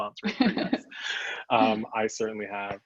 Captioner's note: both laugh